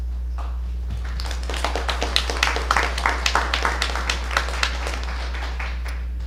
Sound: applause

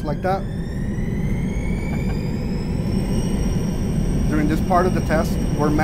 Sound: engine accelerating

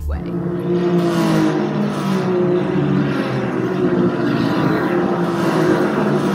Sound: loud race car sounds

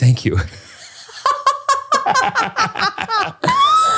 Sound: both laughing

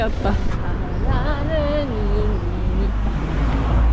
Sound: humming a song

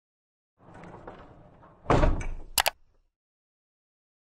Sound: icon bumps and clicks

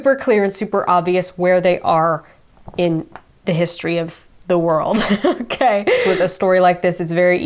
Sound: laughs

